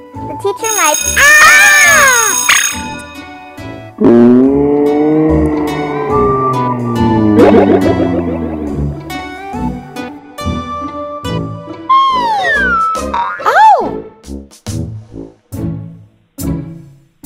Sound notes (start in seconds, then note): 0.6 bell rings; 1.1 yelling; 4.7 slow motion yelling